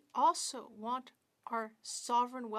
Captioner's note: speaking in French